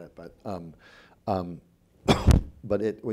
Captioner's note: coughing